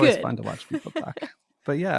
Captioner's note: laughs